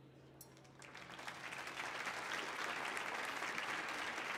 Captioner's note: audience applauding